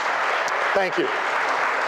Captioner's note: applause